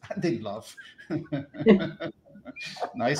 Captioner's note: laughter